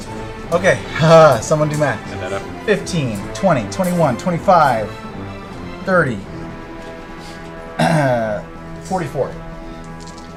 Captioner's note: nervous laugh; clears throat